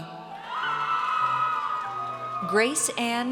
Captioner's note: audience cheers